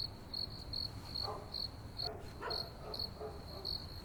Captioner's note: dog barking